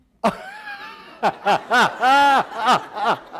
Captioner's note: audience laughter